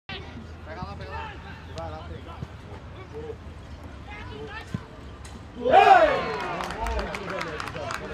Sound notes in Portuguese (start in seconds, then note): 5.6 gritos de gol